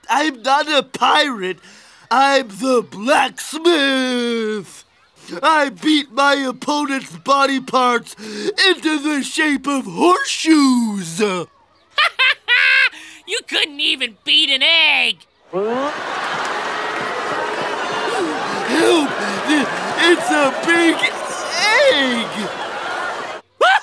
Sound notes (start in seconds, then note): 11.8 laughing; 23.5 laughing